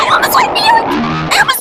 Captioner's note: panicing noises